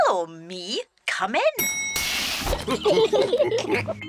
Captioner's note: laughs; elevator bell dings; all laughing